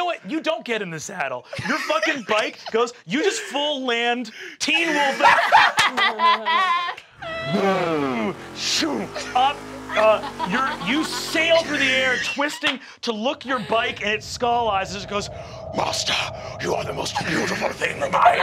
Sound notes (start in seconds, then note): 4.6 laughing; 7.2 mimics revving bike